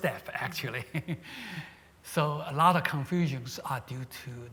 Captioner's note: chuckles